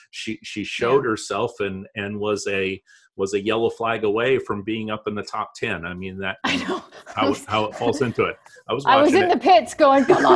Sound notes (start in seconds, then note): 6.5 chuckles; 9.8 laughs